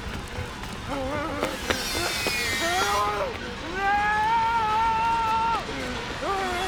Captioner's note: whimpering